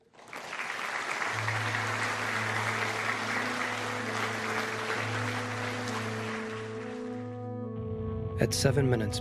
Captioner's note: applause